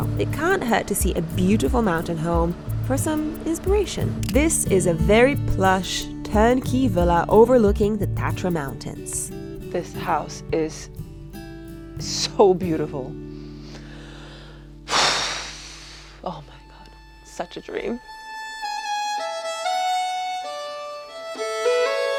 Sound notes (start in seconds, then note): 13.2 serene music; 14.8 sighing; 18.7 serene violin music